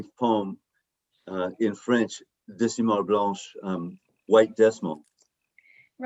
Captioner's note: non-english speech